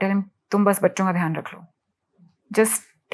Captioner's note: speaking in foreign language